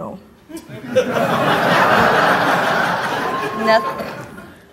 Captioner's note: audience laughing